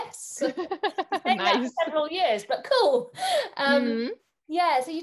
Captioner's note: laughs